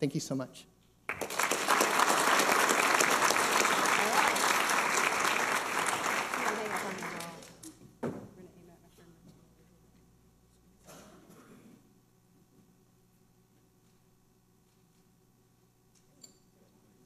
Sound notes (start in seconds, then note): 1.0 applause; 6.3 people talking